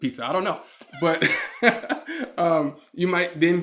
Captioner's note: laughing